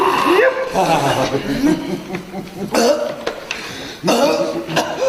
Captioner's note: coughing